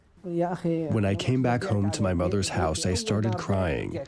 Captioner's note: through translator